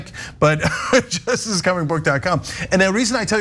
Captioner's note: laugh